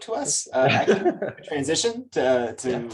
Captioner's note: laughs